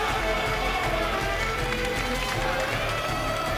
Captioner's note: fans chanting